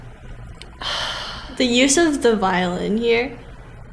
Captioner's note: sigh